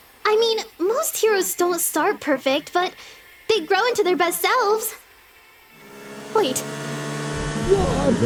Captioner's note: car accelerating sound